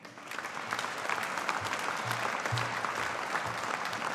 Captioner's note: audience applauding